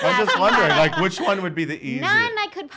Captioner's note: laughing